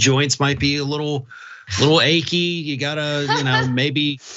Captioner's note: laugh